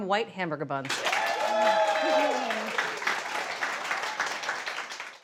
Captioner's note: audience applauding